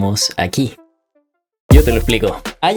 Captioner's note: silence / tension